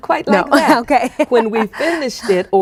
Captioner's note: laughing